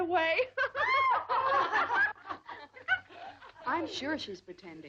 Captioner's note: girls laughing